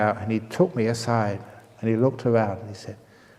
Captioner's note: whispering